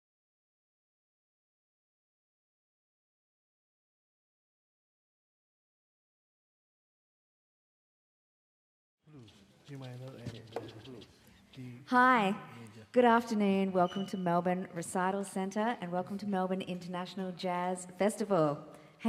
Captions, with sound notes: (participants chattering) - Hi. Good afternoon. Welcome to Melbourne Recital Center, and welcome to Melbourne International Jazz Festival.